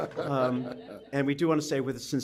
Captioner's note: laughter